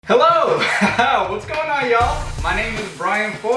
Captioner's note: chuckling